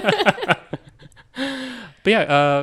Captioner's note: all laughing